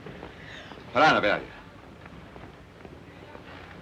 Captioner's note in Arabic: هارتز يتحدث لغة أجنبية